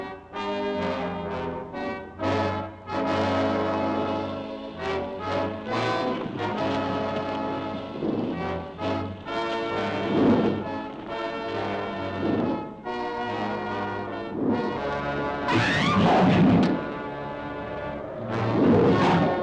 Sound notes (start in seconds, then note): 15.1 dramatic music; 15.5 Nora screams